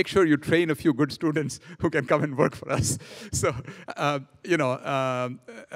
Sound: laughing

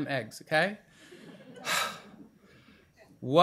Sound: sighs

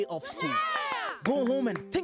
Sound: cheering

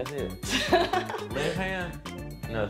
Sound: laugh

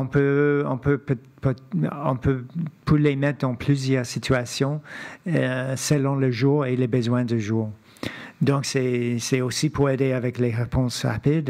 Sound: speaking French

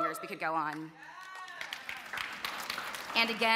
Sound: applause

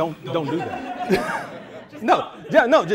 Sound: laughter

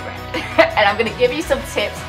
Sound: chuckles

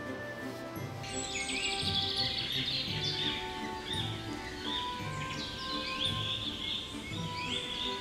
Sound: birds chirping

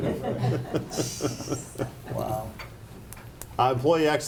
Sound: laughing

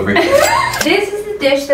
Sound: laughs

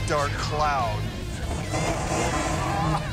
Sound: engine revving

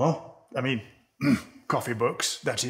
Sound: ahem

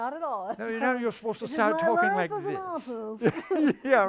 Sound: imitates British accent

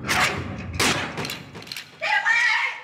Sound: gun fires

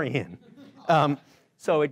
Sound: laughing

